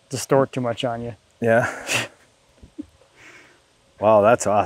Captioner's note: chuckles